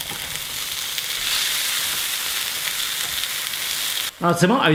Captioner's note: pan sizzles